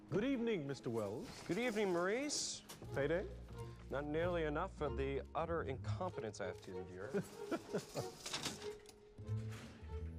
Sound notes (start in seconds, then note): 7.1 chuckles